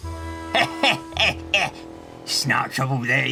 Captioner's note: the truck laughs